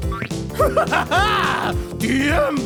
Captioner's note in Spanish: Risas malvadas